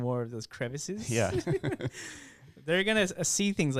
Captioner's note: laughing